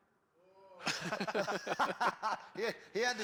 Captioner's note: all laugh